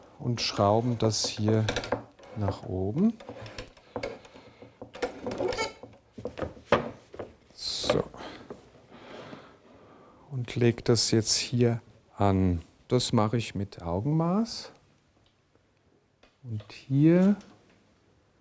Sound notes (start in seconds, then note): 4.4 creaks